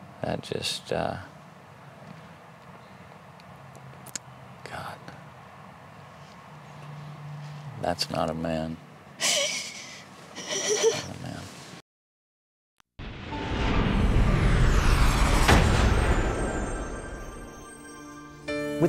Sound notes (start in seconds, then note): 10.3 crying